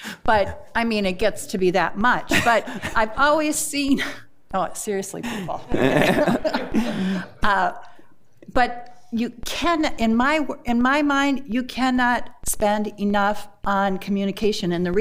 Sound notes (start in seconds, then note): 5.2 board Members laugh